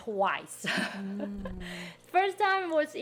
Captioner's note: laughing